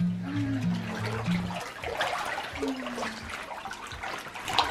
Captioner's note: water flowing